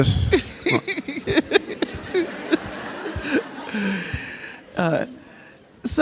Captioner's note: Angela Davis and audience chuckling